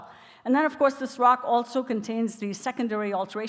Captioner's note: none